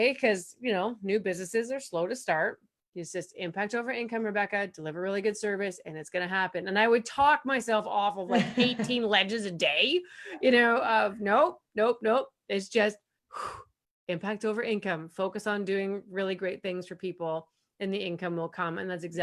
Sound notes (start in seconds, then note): 13.2 loud breath